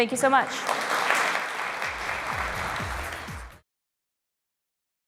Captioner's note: applause